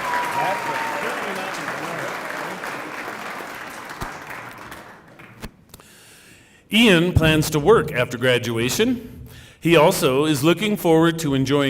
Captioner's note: cheering and applause